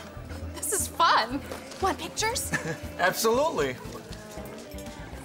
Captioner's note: chuckles